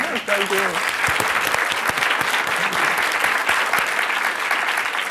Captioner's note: laughter, applause